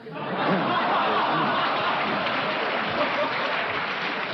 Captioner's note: crowd cheers